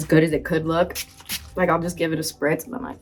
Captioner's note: bottle hissing